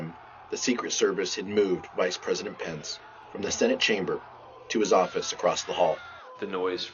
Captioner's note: shouting